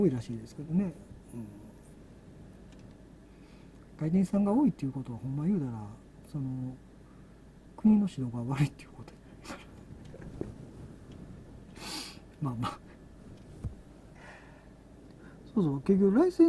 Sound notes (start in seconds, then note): 10.6 laughs